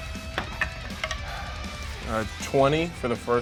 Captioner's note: dice rolls